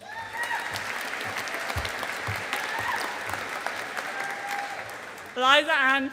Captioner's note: audience applauding